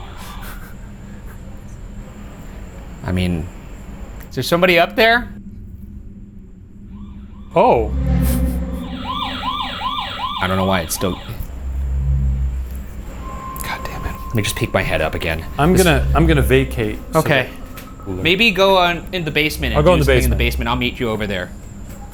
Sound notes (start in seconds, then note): 0.0 laughing; 8.5 motion alarm blaring